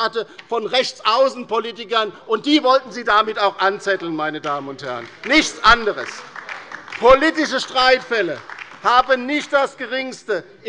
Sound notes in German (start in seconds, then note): 4.4 Beifall bei der LINKEN